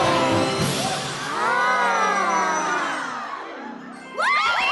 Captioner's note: all gasp; cheers and applause